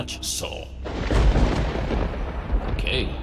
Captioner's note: thunder booming